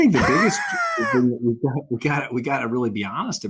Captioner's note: laughing